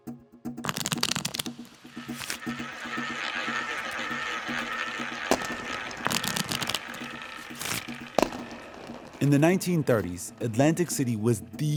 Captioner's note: soundbite of cards shuffling